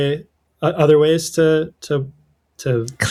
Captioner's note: uh